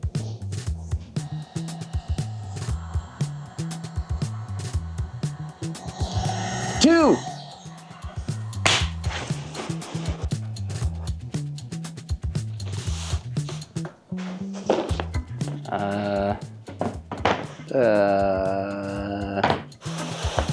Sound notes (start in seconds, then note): 0.5 upbeat music; 2.3 tools whirring; 7.4 upbeat music; 12.5 materials shuffling